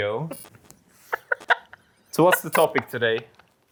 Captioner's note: laughs